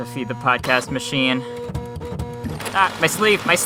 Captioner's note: fax printing sounds